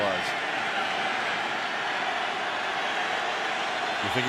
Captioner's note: crowd cheering